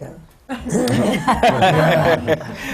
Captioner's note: laughter